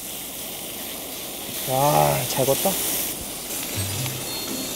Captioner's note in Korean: 지글지글